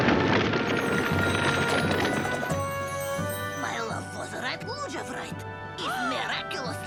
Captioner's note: rocks shimmer